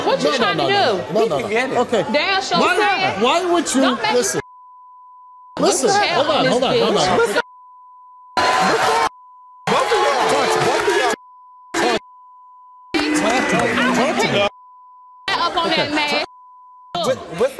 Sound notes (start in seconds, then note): 9.7 audience cheers; 13.0 guests yelling